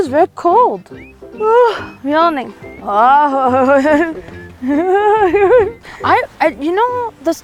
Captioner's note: laughing